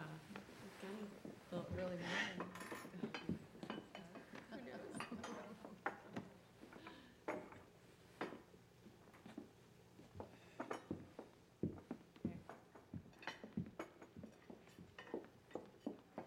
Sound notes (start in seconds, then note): 4.2 gossiping, laughing